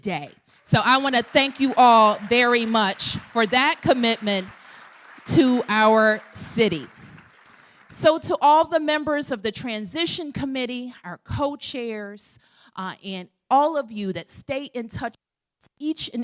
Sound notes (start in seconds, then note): 6.9 applause